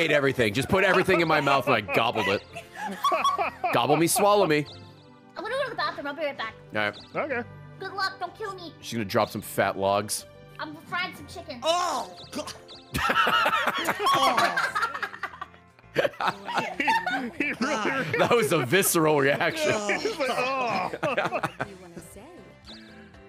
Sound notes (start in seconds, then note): 15.2 chokes; 15.8 laughs